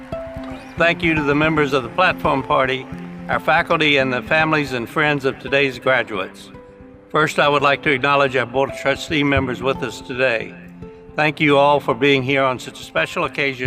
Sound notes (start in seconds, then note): 6.0 cheering and applause